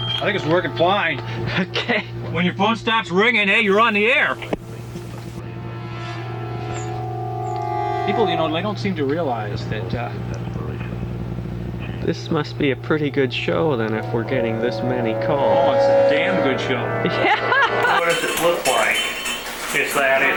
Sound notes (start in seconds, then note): 5.4 tense music; 17.0 laughs